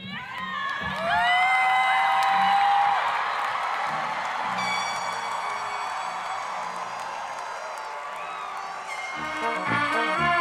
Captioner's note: applause, cheering